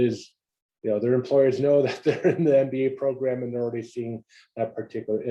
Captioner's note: laugh